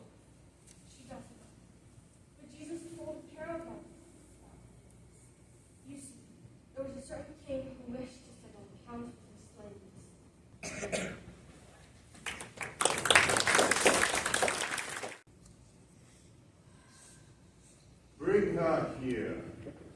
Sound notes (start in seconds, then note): 12.1 applause